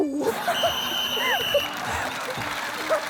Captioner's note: blows whistle